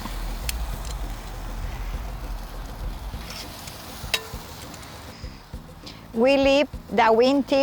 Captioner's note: sizzling